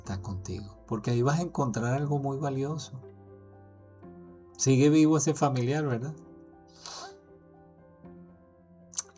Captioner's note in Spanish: resoplido